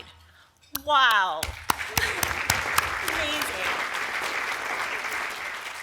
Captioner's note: applause